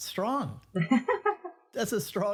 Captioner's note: laughing